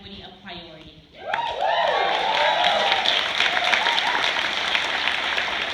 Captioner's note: cheers, applause